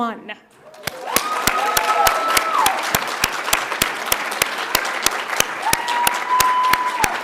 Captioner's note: audience cheers; audience applauds